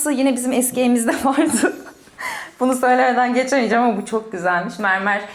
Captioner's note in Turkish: kahkaha